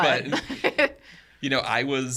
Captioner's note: podcaster laughing